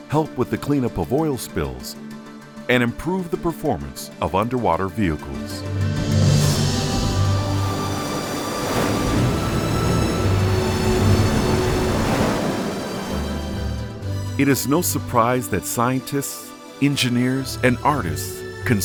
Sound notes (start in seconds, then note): 6.9 inspiring music; 7.9 waves crashing